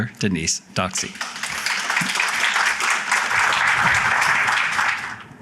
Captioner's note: applause